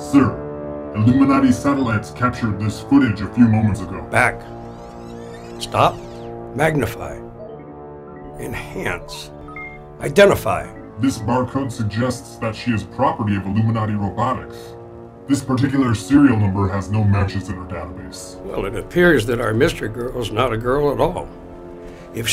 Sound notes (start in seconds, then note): 0.2 voiceover; 4.9 video rewinding; 11.3 voiceover